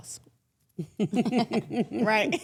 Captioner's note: everyone chuckles